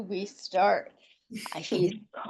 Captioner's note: chuckles